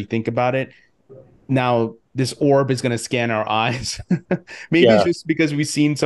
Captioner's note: laughs